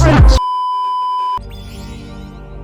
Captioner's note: beeeeeeeeeeeep